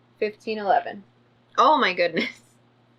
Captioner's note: none